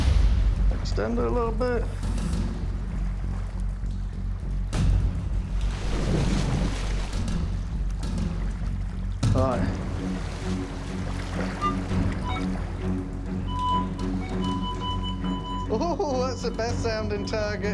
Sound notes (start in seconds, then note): 12.2 metal detector chirping; 13.5 metal detector beeping; 15.7 chuckling